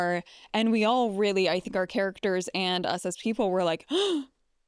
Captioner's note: gasps